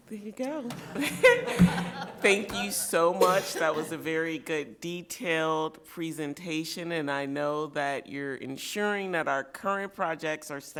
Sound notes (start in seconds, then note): 0.8 light laughter